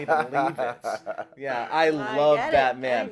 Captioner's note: laughter